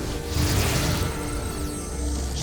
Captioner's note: dark magic whoosh-crackle; sparkling whoosh